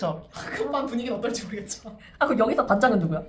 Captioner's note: laughs